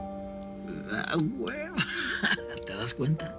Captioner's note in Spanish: Risas